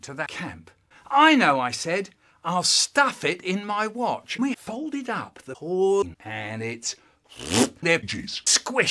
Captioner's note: pfft